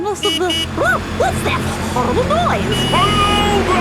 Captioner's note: honking